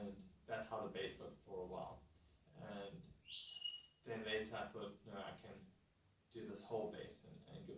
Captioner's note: parrot whistles in the background